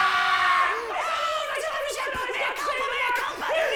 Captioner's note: both shouting at once